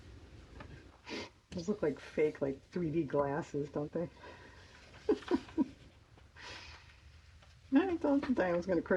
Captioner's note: laughs